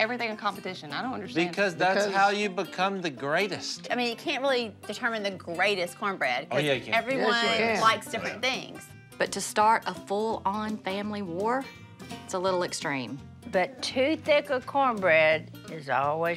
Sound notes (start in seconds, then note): none